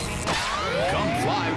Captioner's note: screech